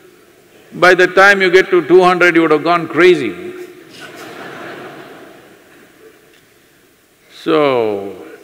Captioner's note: laughs/Laughter